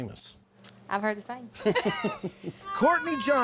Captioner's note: both laugh